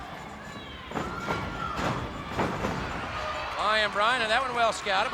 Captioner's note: footsteps plodding